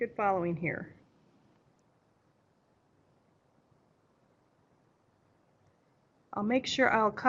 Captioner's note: no sound - waiting for questions